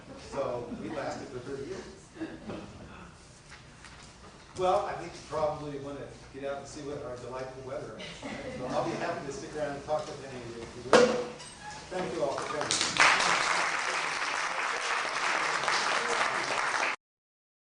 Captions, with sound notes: So, we lasted for 30 years. Well, I think you probably wanna get out and see what our delightful weather is, right? [chuckling] So I'll be happy to stick around and talk with any of you if you wish. Thank you all for coming. [applause]